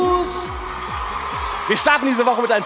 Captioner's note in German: Jubel